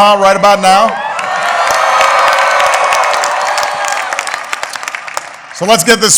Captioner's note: applause